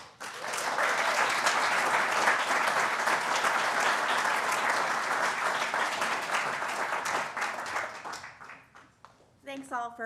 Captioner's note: applause